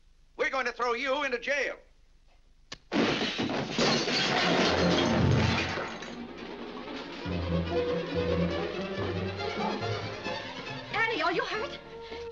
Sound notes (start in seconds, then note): 2.9 crashing & shattering; 6.2 intense dramatic music